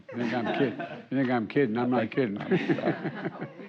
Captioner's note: laughter